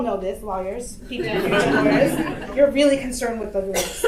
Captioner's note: audience laughter